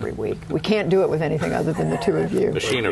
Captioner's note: laughter